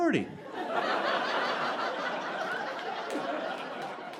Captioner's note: audience laughing